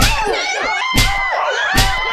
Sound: punch; slap

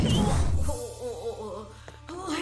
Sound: groaning

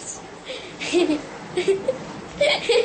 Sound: laughing

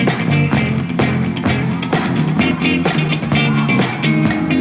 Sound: all clapping

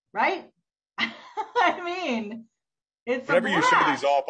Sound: laughs

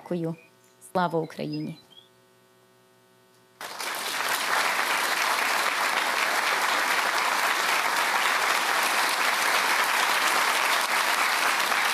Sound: speaking Alternate Language; applause

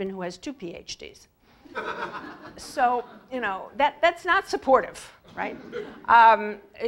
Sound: laugh; laugh

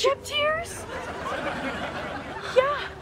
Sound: audience laughing

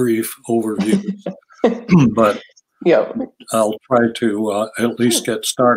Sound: laughs

